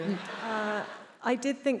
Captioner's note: attendees laughs